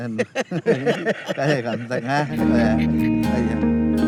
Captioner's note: laughing and murmuring